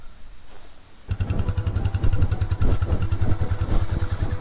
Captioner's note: engine roars